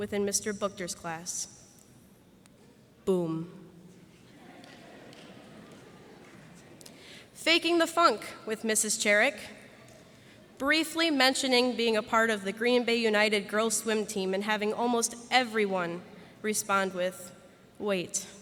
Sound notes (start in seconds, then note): 4.2 laughter